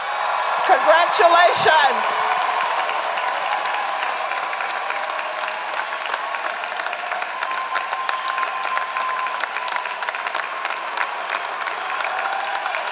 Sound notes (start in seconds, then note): 0.2 applause; 2.0 applause